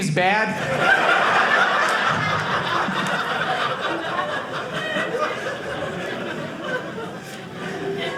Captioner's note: audience laughing